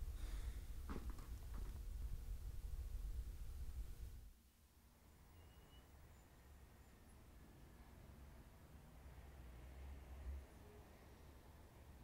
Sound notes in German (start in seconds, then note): 5.5 gedämpfte Stadtgeräusche